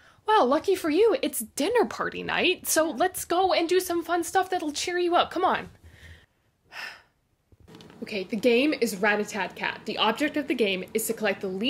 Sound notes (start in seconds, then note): 6.7 sigh